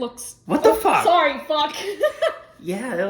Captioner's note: laughs